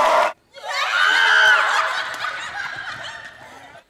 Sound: screaming

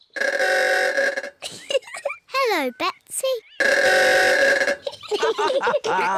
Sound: horn bellows; giggles; horn bellows; all giggle

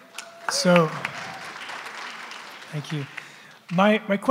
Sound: applause

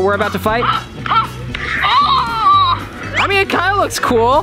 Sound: groans

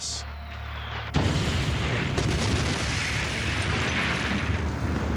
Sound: explosions

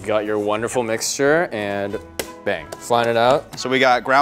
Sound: mixture plops onto parchment paper

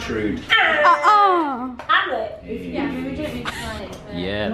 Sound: mimics buzzer noise

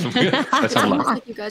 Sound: laughing

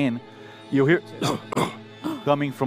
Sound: cough

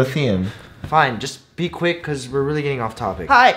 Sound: sigh

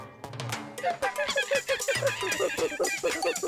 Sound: monkey cries

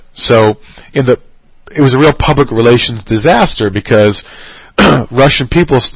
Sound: cough

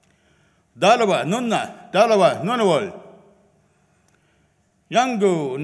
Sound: speaks in foreign language

